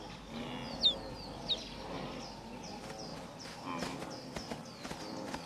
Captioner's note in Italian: cinguettii